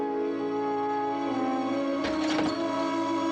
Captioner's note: glass shatters